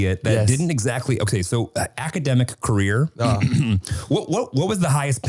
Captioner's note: clears throat